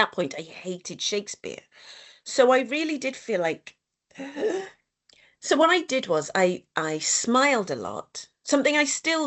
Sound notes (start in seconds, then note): 4.2 inhales